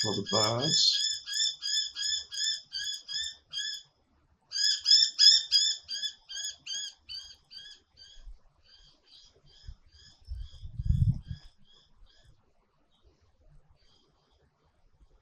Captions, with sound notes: That's for the birds. (bird calling)